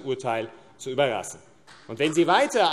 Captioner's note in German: Beifall AfD